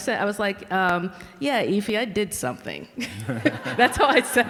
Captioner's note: laughs